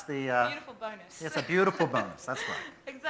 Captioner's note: laughs